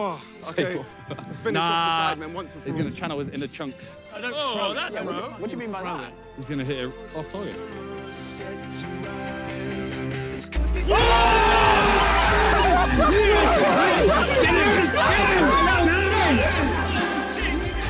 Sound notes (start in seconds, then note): 10.8 players cheer